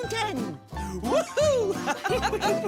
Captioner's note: laughing